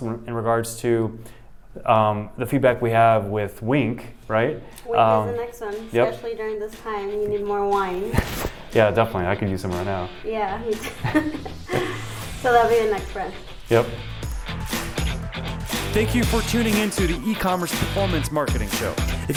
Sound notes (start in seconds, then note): 5.4 upbeat rock music; 8.2 chuckles; 10.8 both chuckling